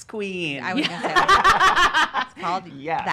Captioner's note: laughs